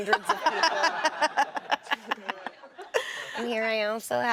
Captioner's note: laughs